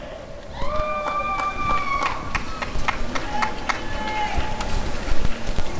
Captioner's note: applause and cheering